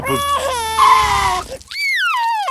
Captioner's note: tires screeching; crying